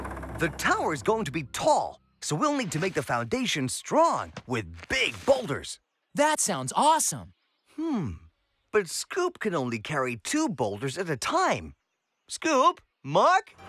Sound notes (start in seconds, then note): none